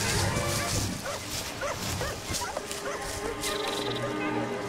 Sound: dogs barking

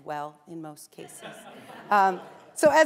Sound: laughter

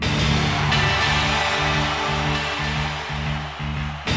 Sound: crowd cheers

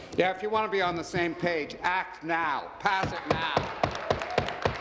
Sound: applause

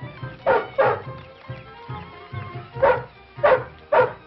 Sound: dog barking

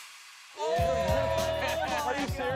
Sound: all exclaiming

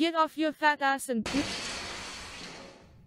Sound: loud crash from outside

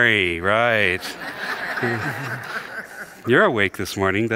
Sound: congregation laughs

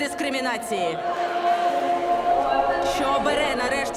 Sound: crowd

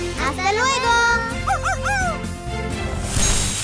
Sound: barking

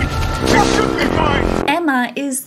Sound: sad trombone

